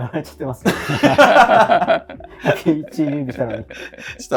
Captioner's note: laughing